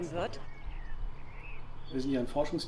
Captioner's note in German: Vogelzwitschern